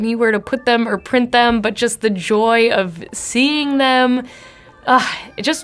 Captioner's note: sighs